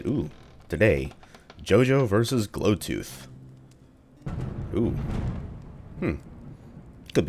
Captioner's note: thunder